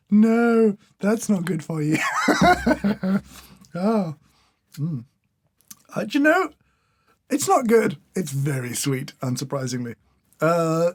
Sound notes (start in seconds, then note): 2.0 chuckles